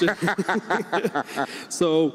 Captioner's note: everyone laughs